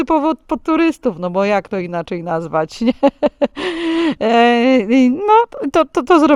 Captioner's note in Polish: śmiech